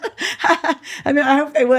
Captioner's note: laughs